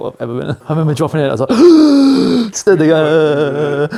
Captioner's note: gasp